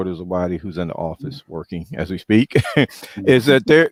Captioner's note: chuckles